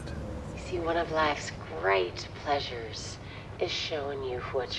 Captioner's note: on phone